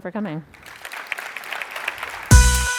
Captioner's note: applause